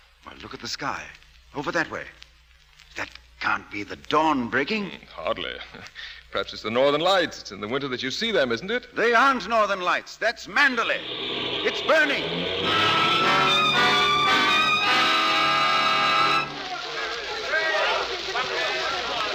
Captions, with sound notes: Well, look at the sky. Over that way. That can't be the dawn breaking. Hardly. Perhaps it's the northern lights. It's in the winter that you see them, isn't it? They aren't northern lights. That's mandolin. It's burning. (Horn blares) (Horns blare) (Horns blare) (Horns blare) (Horns blare)